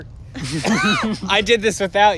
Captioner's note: laughter